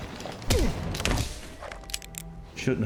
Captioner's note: thudding, guns clicking